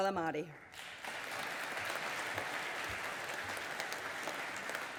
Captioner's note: audience applauding